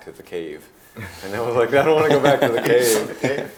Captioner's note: laughing